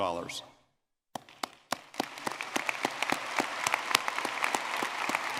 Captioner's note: audience clapping